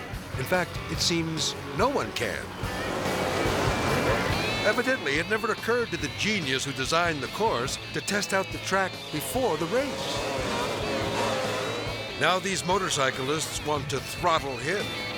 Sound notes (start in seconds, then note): 2.9 motorcycles revving; 2.9 rock music